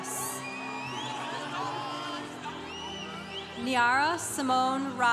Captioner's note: congregation applauding